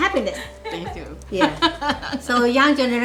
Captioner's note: laughs